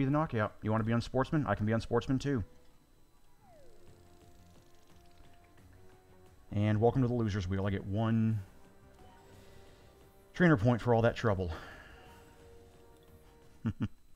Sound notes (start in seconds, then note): 12.0 laughing